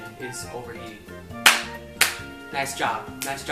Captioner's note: clap